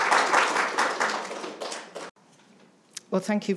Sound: audience clapping

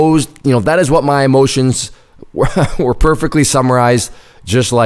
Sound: laughs

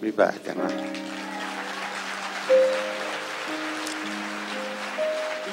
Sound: audience cheers

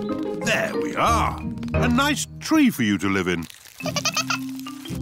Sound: giggling

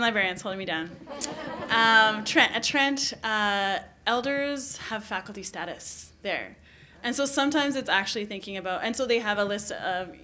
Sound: laughter

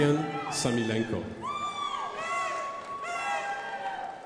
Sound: crowd applauding

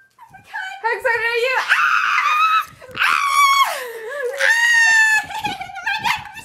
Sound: random teenage girls screaming

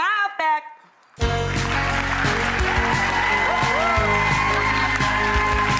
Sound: audience cheering and clapping

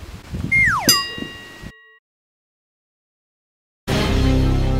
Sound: bell dings; dramatic orchestral music

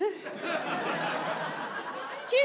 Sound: audience laughs

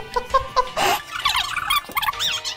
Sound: laughing; video rewind tone

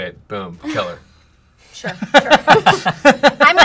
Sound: laughter

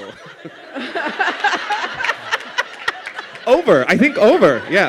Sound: laughter

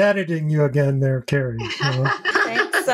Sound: laughs

